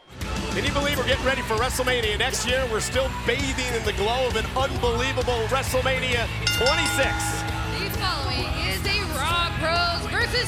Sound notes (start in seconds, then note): 6.4 bell ringing